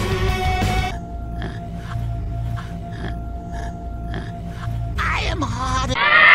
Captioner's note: sighin' titfic pondering